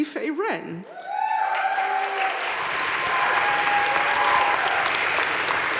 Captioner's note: audience cheering and applauding